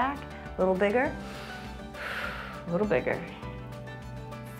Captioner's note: exhales